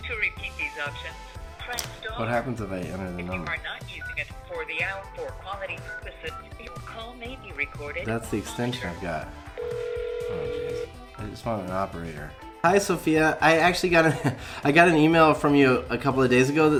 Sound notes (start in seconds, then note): 5.0 phone beeping; 9.5 phone ringing; 14.0 laughs